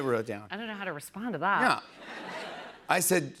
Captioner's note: laughter